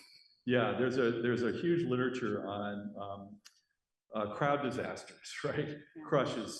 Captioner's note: laughs